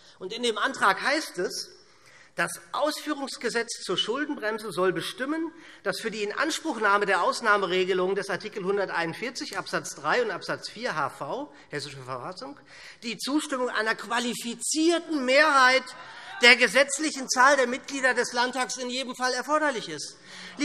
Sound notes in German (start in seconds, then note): none